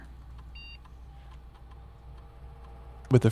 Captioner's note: beeping